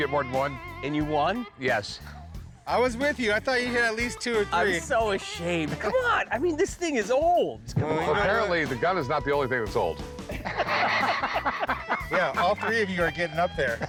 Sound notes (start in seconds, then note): 10.2 laughter